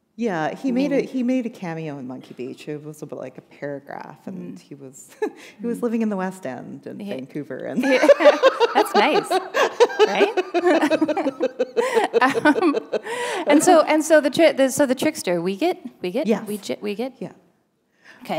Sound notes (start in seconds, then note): 4.6 chuckle; 7.8 laughter